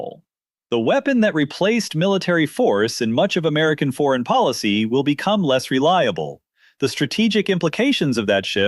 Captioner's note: thoughtful